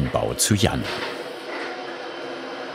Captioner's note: machine whirring